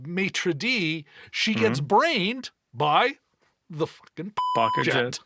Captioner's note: beep